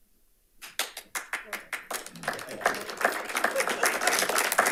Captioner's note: audience applauds